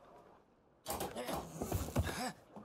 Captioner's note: door opens